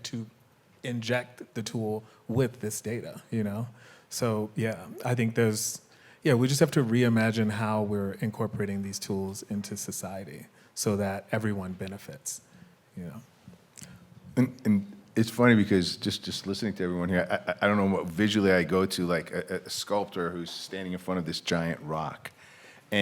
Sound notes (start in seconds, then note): none